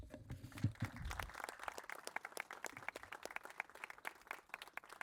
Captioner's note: crowd applauding